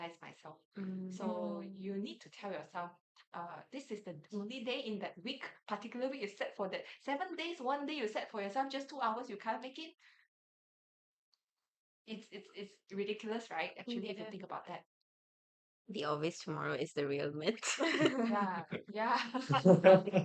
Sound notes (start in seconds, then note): 19.2 everyone laughs